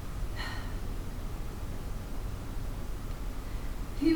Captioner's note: sigh